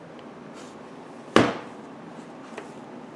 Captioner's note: slam